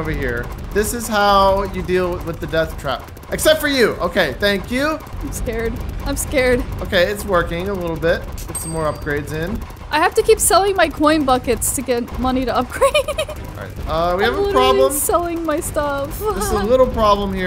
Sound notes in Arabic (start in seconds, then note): 12.7 يضحك